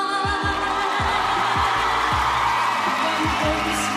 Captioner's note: crowd cheering